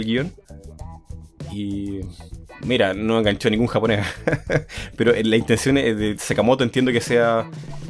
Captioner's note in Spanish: risas